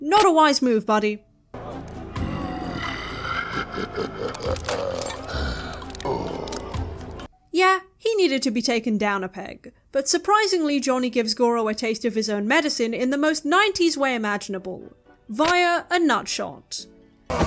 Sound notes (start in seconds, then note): 2.6 crushing noises + mocking laughter; 5.0 sarcastically